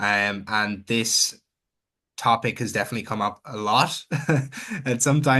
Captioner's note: chuckles